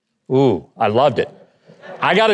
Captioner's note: audience laughing